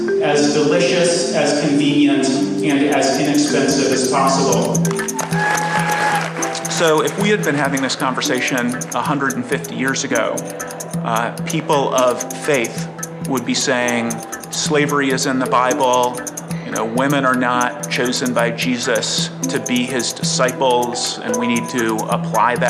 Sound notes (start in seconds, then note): 5.1 applause